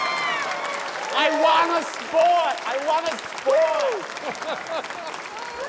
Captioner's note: cheering, applause